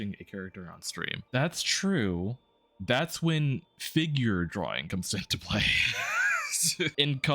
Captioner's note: laughs